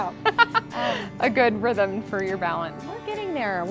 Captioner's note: laughs